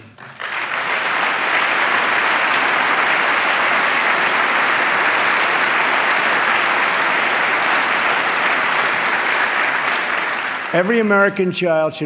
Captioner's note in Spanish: aplauso